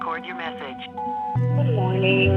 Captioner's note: voicemail beeps